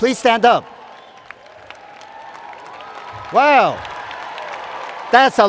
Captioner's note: cheers and Applause